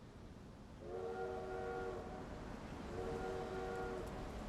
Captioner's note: train whistle blows